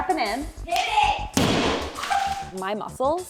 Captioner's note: wall hitting